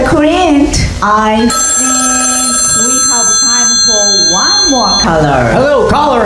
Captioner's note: riinngg